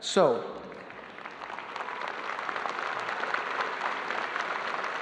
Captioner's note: audience applauding